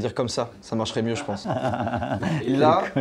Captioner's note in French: rires